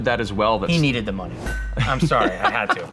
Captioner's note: laughs